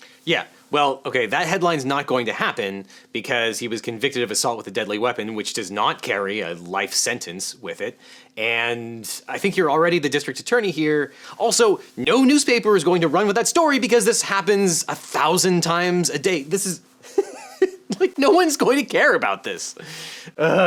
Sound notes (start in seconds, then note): 17.1 laughing